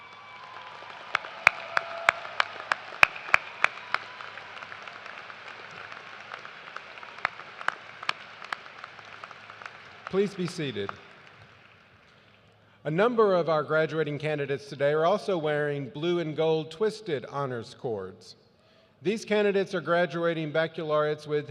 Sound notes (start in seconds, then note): 3.3 cheers and applause